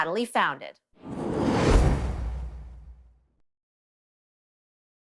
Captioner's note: transition sound